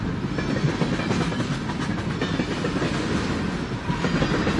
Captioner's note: train is passing